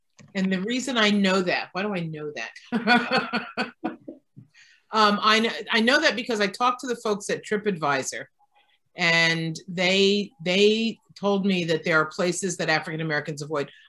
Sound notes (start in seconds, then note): 2.7 laughss